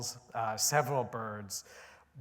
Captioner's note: none